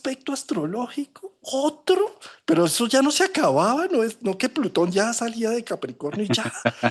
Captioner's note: laughs